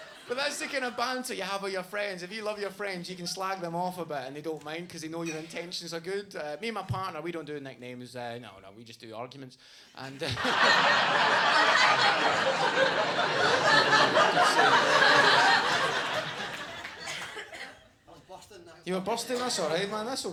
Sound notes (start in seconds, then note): 10.1 audience laughing